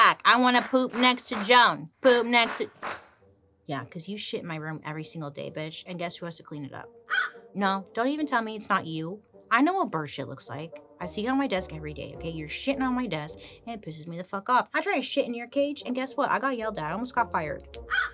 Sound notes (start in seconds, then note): 7.0 Joan caws; 17.9 Joan caws